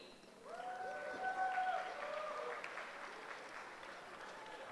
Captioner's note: cheering